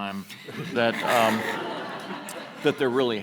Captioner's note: audience laughs